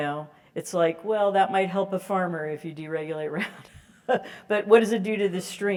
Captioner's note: laugh